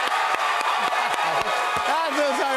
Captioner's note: cheers and applause